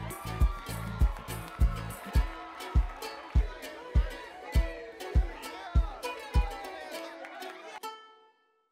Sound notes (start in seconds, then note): 1.6 cheering; 6.4 clapping